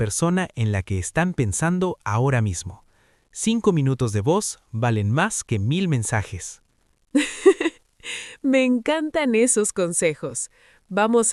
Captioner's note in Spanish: risas